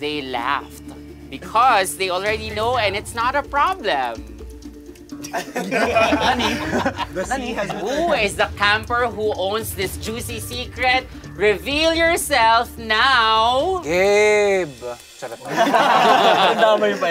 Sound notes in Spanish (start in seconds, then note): 5.2 campistas riendo